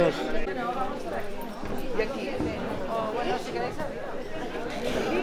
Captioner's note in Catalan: murmuri del públic entrant al teatre